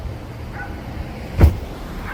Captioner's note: dog barking; car door bangs